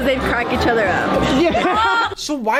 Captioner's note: laughter